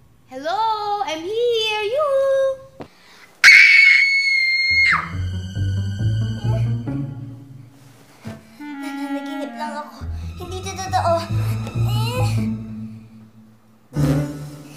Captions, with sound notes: Hello! I'm here! Yoo-hoo! [screams] I'm just dreaming. This isn't real. [grumbling]